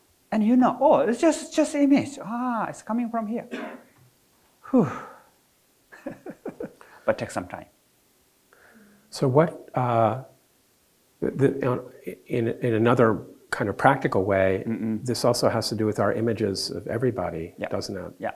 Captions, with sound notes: And you know, "Oh, it's just image, oh it's coming from here." (exhales) (laughs) But take some time. - In another kind of practical way, this also has to do with our images of everybody, doesn't it?